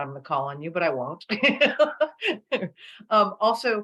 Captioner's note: laughter